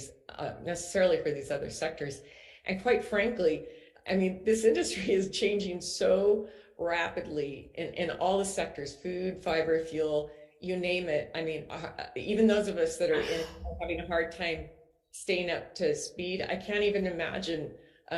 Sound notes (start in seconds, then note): none